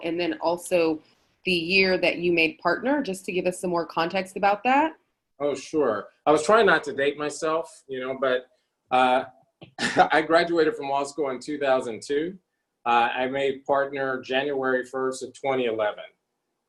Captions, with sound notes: and then also, the year that you made partner, just to give us some more context about that? - Oh sure, I was tryin' not to date myself, but (laughs) I graduated from law school in 2002, I made partner January 1st of 2011.